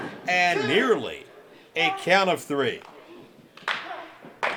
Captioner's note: fans clapping